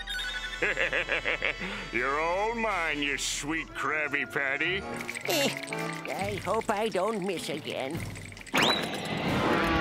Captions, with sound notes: [laughing] You're all mine, you sweet Krabby Patty. Eh. I hope I don't miss again.